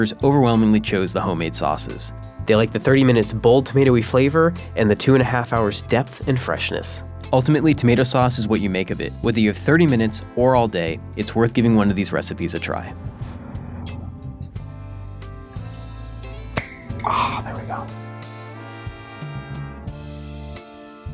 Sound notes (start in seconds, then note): 16.5 can pops; 18.3 light music